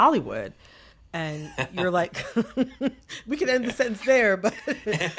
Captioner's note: laughter